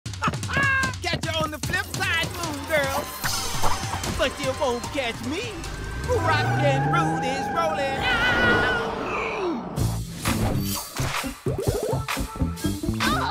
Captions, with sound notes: [laughs] Catch you on the flip side, Moon Girl. But you won't catch me. Rockin' Rudy's rolling out. [growls]